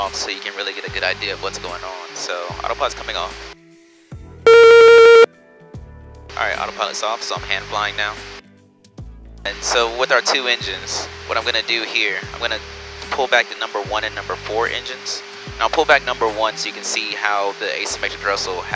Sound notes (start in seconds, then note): 4.4 beeping